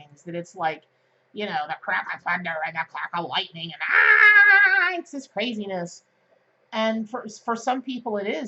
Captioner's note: jabbering noises